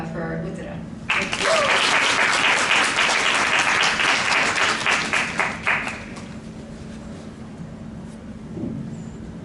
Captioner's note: applause